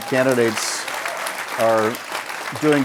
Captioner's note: audience applauds